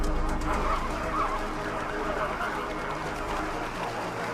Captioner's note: huge chorus of calls and croaks